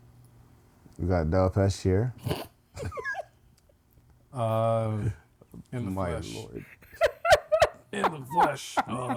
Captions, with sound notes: We got Delpesch here (Laughing) Uh, In the flesh In the flesh